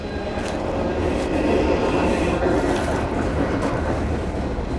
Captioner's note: sound of train